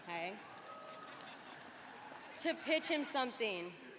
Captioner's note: laughter